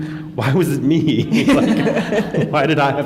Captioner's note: laughter